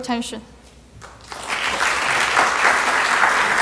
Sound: applause

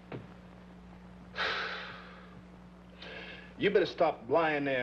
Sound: Sam sighing heavily

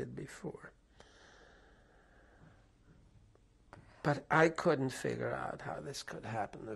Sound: pauses for 3 seconds

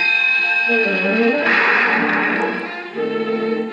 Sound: ding; crash

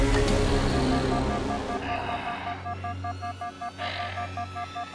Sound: HUD alarm beeps

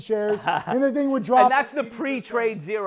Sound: laughing

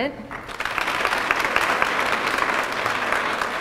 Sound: applause

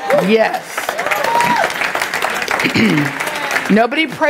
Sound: clapping and cheering from the congregation

